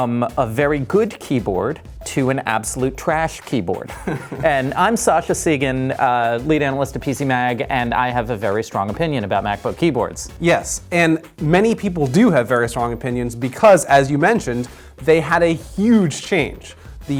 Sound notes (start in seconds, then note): 3.8 laughs